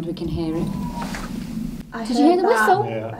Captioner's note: faint crying